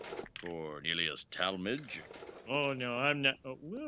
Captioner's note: cart clatters; paper cup crinkles; cart clatters